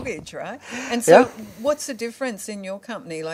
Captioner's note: laughing